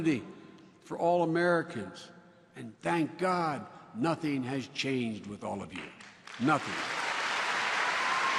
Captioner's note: applause